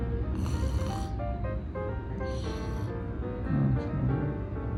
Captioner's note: sound of me snoring